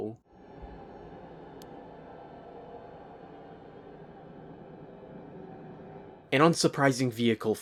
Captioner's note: gameplay audio